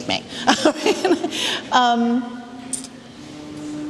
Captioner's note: laughs